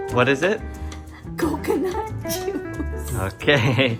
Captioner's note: laughs